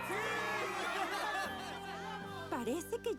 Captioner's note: cheers